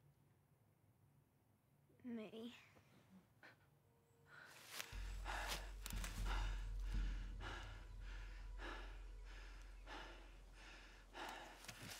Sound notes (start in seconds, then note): 4.4 man breathes heavy; 8.2 eerie music